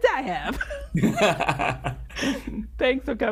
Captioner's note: laughs